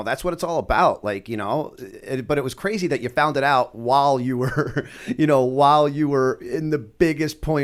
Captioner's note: chuckle